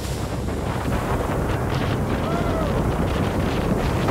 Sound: wind whirring

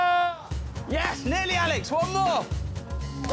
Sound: screams

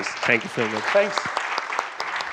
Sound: applause

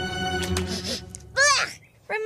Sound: sniff

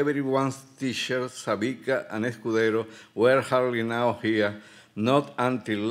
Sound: speaking Spanish

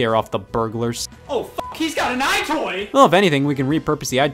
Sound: beep

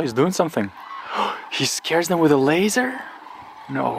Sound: gasps

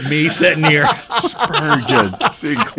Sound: group laughing

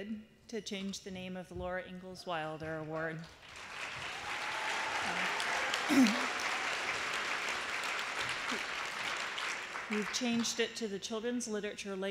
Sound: applause

